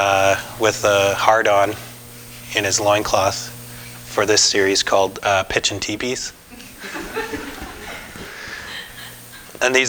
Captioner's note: audience: Laughter